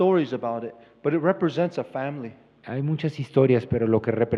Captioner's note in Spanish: Expositor habla en inglés